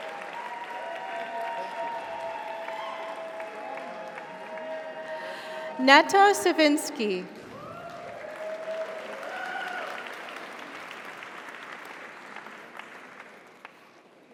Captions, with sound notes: Netta Sovinsky. (audience applauds) (audience cheers)